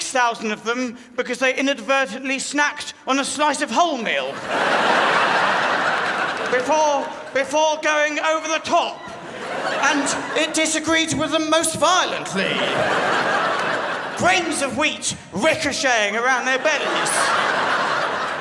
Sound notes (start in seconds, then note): 12.8 crowd laughs